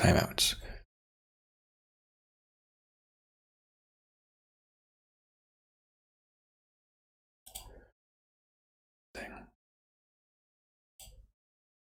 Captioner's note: blank Audio